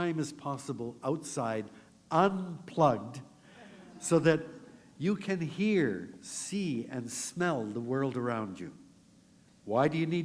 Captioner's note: laughter